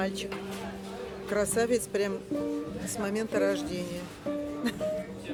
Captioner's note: laughs